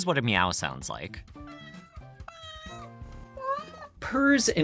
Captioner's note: three cats meowing